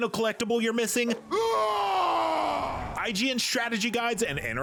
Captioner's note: primal scream